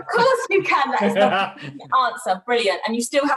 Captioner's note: laughs